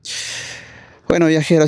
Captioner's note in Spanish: grito ahogado